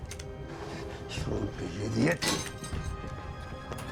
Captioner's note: speaking Slavic language